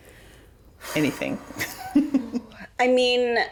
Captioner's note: laughs